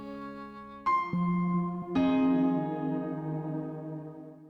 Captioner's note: chime